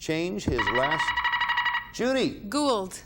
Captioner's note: buzzer beeping